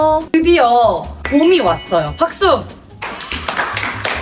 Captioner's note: applause